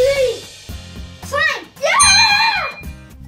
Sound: ding

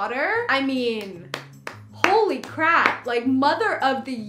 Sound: clapping

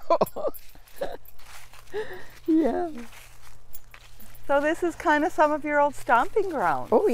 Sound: laughs

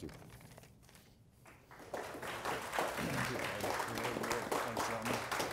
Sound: audience applause

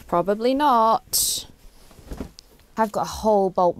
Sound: thud

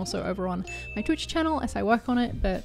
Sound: bell tinkling

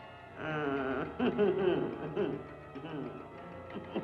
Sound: evil cackling

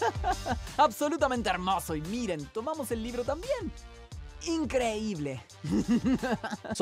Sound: chuckles; voice actor speaking in Spanish

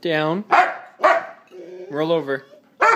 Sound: protest barks; protest barks

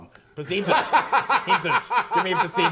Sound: laughing

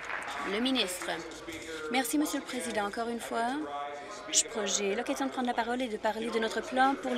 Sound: applause

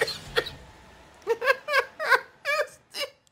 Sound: giggles

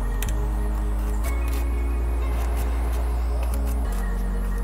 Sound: metal grinding

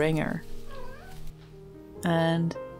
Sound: Soot trills

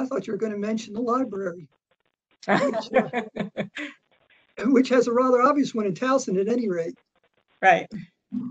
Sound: laughter

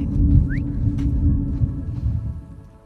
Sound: call whistles

